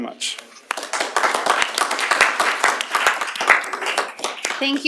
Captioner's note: applause